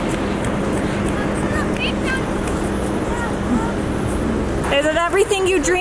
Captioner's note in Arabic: أطفال متحمسون يتحدثون